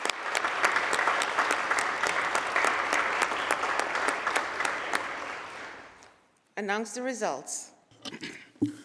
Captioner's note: applause